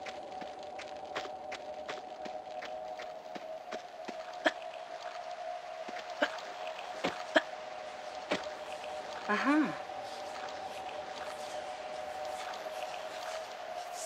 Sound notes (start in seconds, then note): none